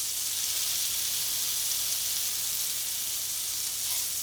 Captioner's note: meat sizzling